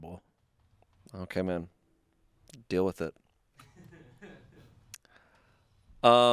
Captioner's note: crew laughing